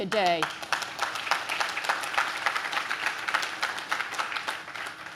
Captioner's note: audience claps